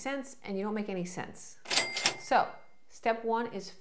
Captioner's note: cash register ringing